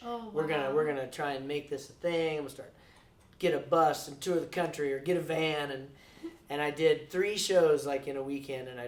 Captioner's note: none